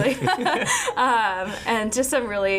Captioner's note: laughing